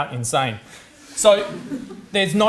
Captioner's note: audience laughs